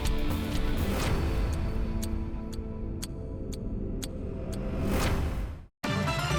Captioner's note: timer ticks; dramatic music; upbeat music